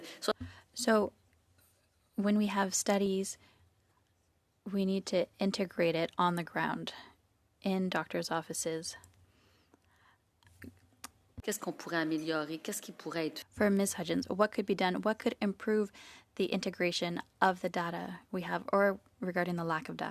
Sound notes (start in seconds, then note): 1.9 speaking French